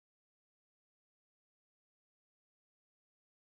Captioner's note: none